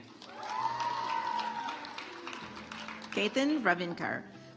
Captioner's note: audience applauds